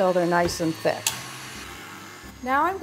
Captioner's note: mixer whirring